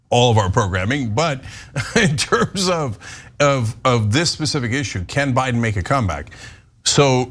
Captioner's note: laugh